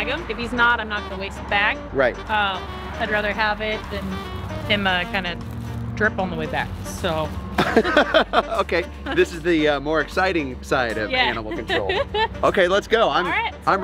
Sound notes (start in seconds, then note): 7.5 Rocky laughs